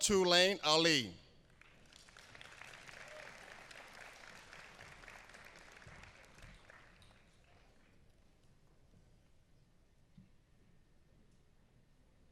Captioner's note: applause; applause